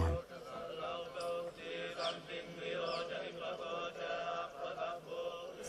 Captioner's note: chanting in foreign language